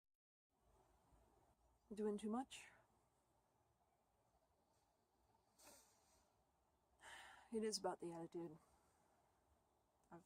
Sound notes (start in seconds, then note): 7.0 sigh